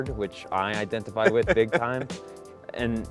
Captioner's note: laughs